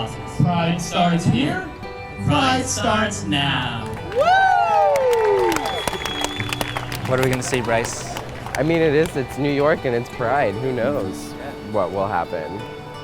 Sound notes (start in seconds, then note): 3.8 cheering/applause